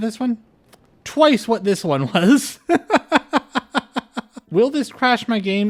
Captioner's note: laughter